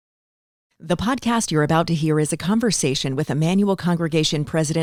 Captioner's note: voiceover